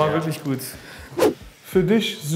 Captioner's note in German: woosh